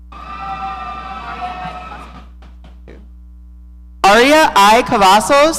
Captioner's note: audience cheering